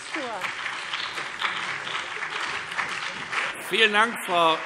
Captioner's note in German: Beifall CDU und BÜNDNIS 90/DIE GRÜNEN